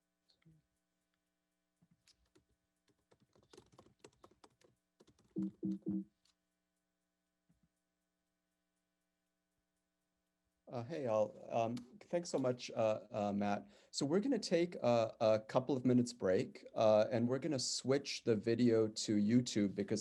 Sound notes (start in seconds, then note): 5.0 keystrokes slicking; 5.0 computer keyboard tone beeps